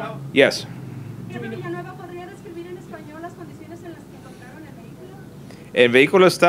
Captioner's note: reporter in Spanish